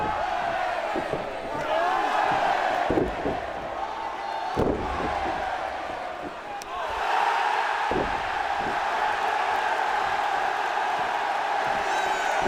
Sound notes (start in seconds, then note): 0.2 audience cheering; 2.9 bodies thudding; 7.8 kick thuds; 7.8 body thuds; 9.2 audience cheering